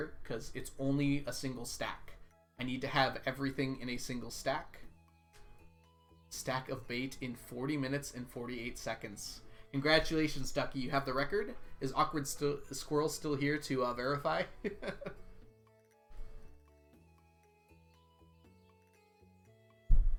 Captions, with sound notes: because it's only a single stack. I need to have everything in a single stack. "Stack of bait in 40 minutes and 48 seconds" Congratulations, Ducky. You have the record. Is AwkwardSquirrel still here to verify? (laughs)